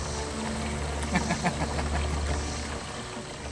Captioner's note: laughter